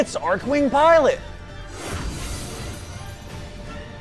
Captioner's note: whoosh; epic music continues